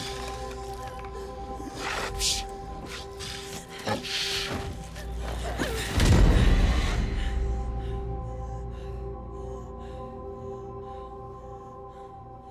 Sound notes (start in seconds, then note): 5.3 dramatic music; 5.3 heavy breathing